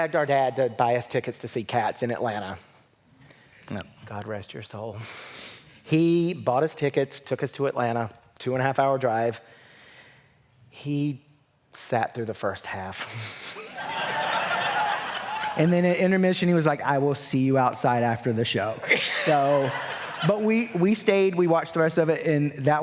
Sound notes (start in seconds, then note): 13.0 laughter